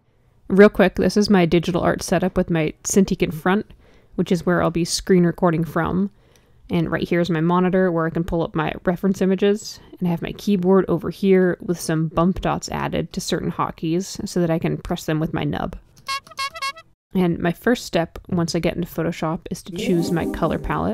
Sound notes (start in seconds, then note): 16.1 clown horn honk; 19.7 harp sound effect